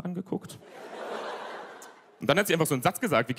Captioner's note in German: Gelächter